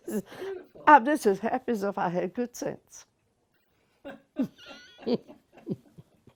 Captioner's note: laughter